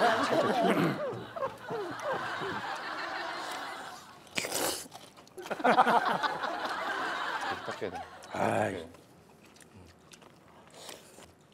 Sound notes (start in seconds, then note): 3.2 eating; 4.8 he chews very carefully